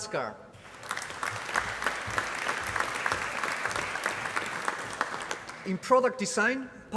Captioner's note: applause